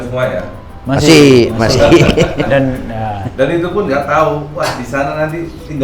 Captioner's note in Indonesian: tertawa